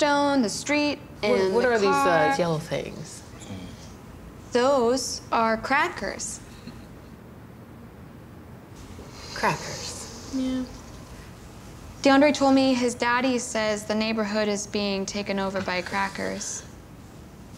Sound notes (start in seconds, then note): none